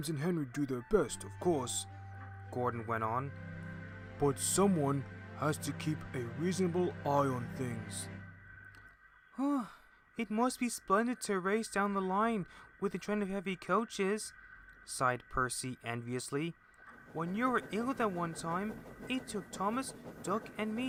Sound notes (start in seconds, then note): 9.3 sigh